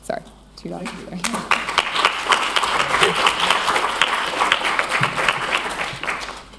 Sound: applause

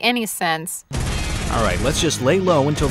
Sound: gun shots firing

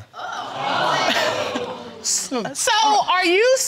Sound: audience exclaims; laughs

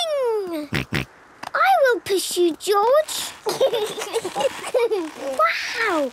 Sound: snorting; kids giggling

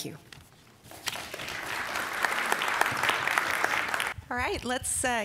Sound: applause

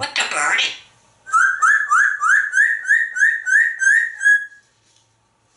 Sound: bird tweet sound

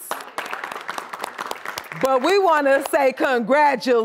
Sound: applause

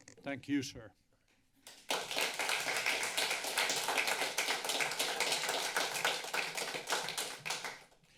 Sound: applause

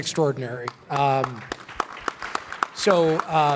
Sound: clapping

